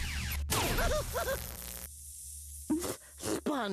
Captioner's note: yelping